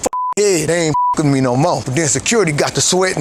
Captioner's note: beep